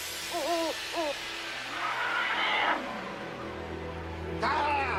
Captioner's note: whimpering; screaming